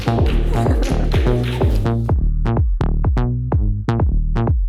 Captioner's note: bursted in laughter again